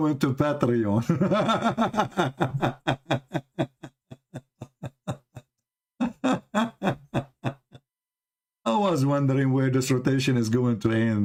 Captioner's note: Ketawa